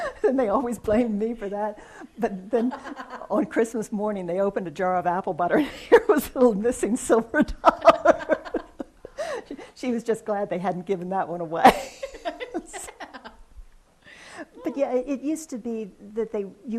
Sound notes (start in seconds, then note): 7.6 laughs; 11.7 laughs